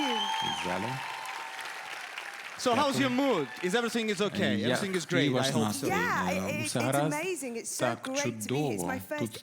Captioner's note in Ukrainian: оплески